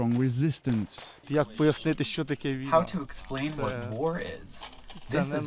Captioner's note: through translator